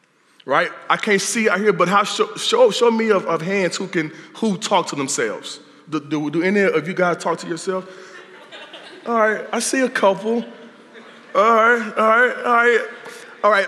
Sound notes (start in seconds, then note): 8.0 laughter